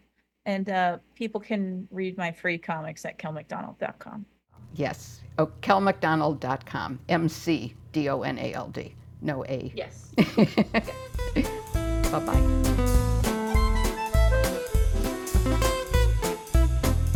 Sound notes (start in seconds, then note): 10.0 laughs